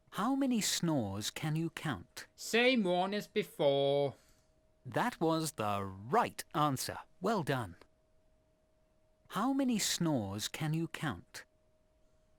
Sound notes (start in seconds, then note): none